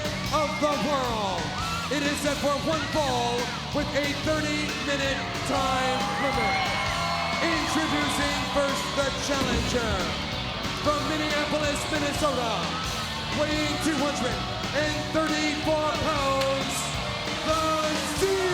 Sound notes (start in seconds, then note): 6.2 crowd cheering; 9.1 fireworks booming